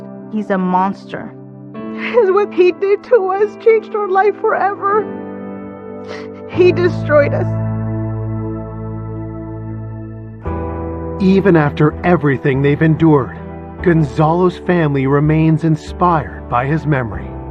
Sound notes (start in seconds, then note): 6.1 sniffles